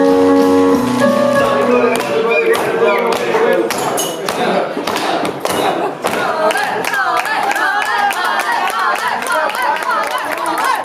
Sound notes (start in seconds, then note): 1.3 people clapping and chanting